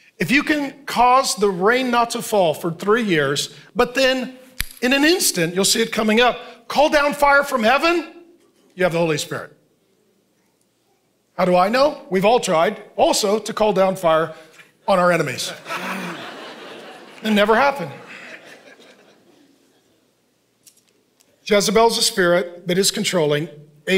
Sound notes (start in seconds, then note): 15.4 congregation laughing